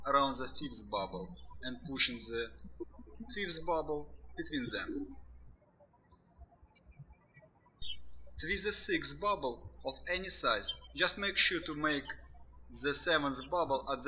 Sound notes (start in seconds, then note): 6.6 birds chirping